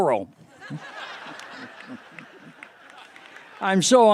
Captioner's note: laughter